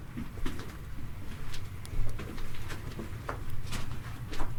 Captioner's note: footsteps clomping